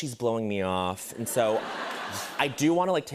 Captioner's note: laughter